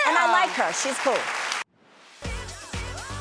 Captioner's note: audience applauds